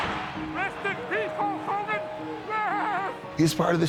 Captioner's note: laughs